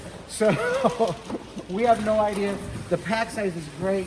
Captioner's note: laughs